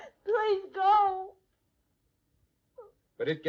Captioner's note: sobbing